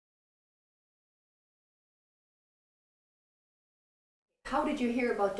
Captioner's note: silent